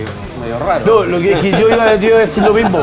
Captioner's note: laughter